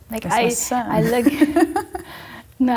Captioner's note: laughing